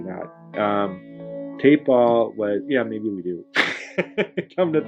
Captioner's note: laughs